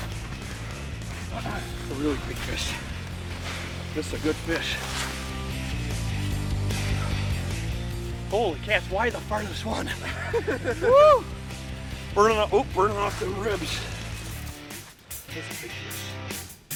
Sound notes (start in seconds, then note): 9.8 laughing; 11.3 breathing heavy